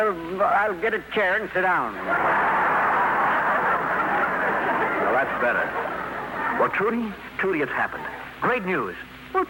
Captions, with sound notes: I'll get a chair and sit down. [laughter] Now that's better. Well, Trudy, Trudy, it's happened. Great news.